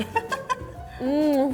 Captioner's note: laughs